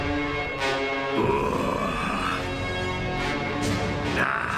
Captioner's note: growls